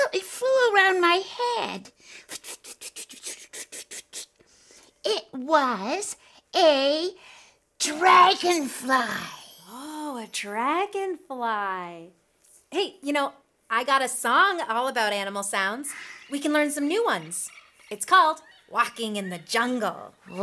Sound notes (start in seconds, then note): 2.6 flitting noises